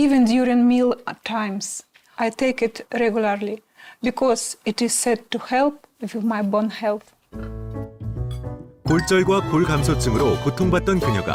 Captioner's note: voiceover